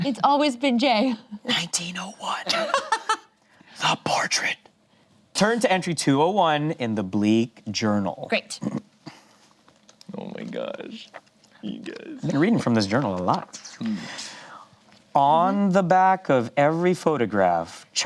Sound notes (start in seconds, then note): 2.5 laughs